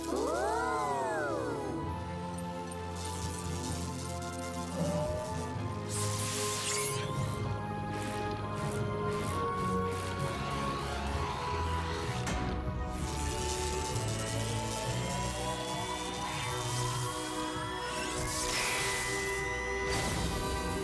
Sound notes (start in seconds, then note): 2.3 zap; 12.6 slam; 13.6 zap